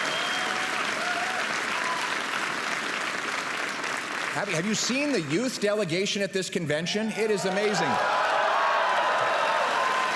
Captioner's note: applause and cheering